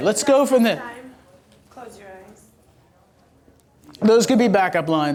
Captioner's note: voiceover